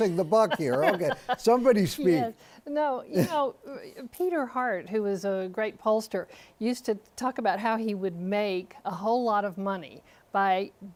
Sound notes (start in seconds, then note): 1.7 laughter